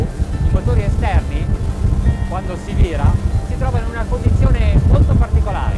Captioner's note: speaking foreign language